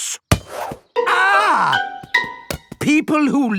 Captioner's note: screams